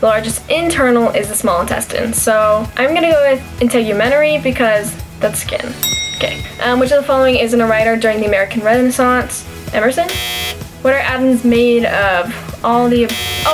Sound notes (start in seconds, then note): 5.8 bell ring; 10.0 buzzer